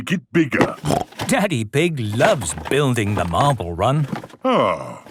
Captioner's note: snorting